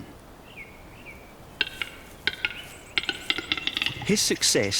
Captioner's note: bird makes clicking sound